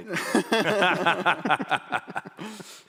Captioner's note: laughter